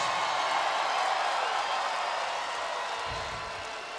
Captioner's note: crowd cheering